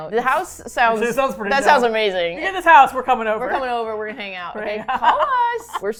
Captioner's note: laughs